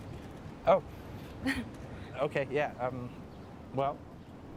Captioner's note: Fern laughs